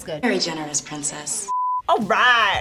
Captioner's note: color bars beeping